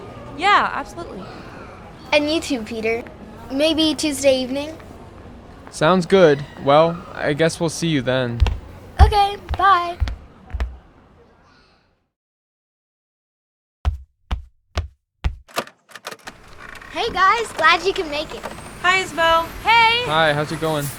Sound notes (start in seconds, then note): 10.5 transition - then door opening